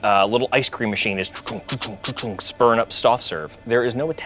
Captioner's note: sputtering